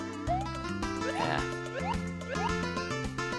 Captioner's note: sigh